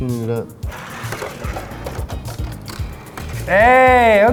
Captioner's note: toy crushing